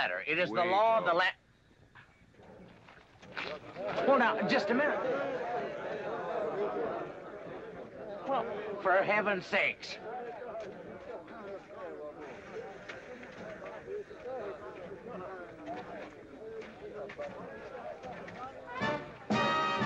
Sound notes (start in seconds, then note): 5.6 crowd chattering; 10.2 crowd murmuring; 18.8 lively band music